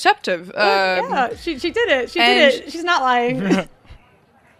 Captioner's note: chuckles; chuckles as the music stops again and crowd noises being